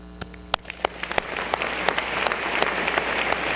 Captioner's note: applause